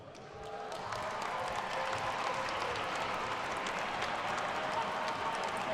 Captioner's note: attendees cheering and applauding